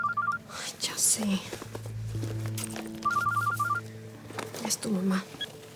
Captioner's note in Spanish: suena el celular